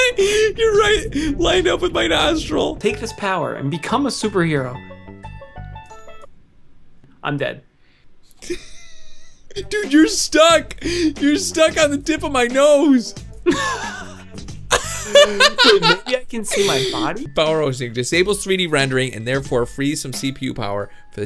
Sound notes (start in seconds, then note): 8.4 laugh; 14.7 laugh